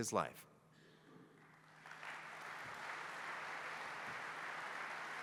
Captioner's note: applause